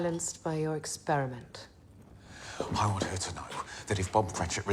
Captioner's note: sighs